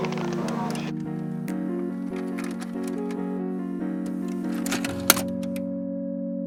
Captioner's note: VHS tape ejecting from VCR